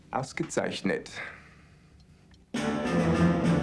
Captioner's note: speaking german